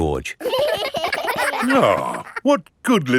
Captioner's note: giggling